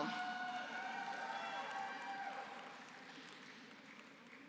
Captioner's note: applause